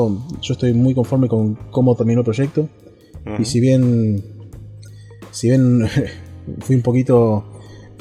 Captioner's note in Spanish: risas